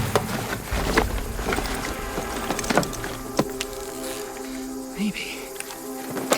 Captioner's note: items clattering